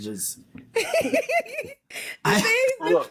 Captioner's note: laughter